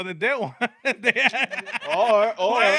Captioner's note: laughing